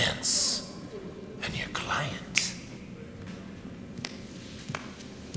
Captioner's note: snaps fingers